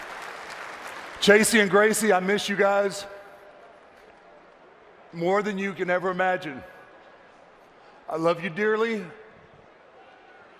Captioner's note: applause